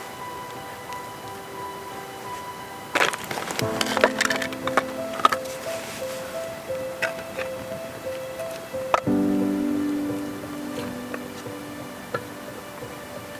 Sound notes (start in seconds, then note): 2.9 sound of stacking wood